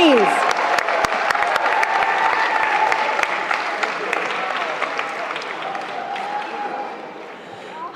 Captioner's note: cheering